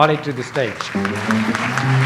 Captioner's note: audience applauds; light jazz music